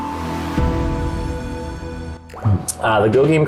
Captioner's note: water drips